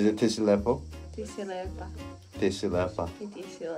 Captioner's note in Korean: 세르비아어